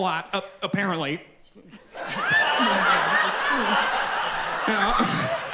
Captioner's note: audience laughs